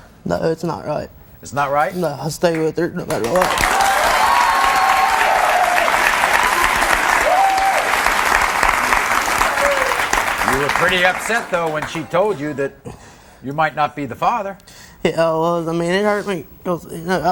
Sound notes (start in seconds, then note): 3.1 audience applauding; 3.2 audience cheering